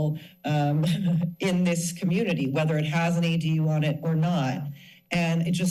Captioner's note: laugh